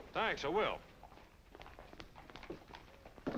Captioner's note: none